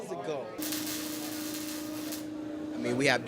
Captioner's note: sparks crackling